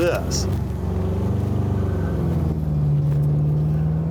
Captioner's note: car engine roaring